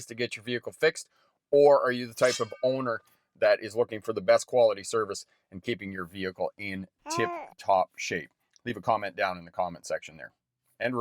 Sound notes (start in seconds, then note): 2.5 metal clinks; 7.0 baby cooing